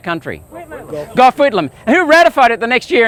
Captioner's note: crowd